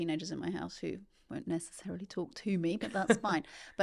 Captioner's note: laughing